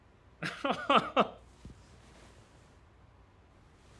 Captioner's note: Jack laughs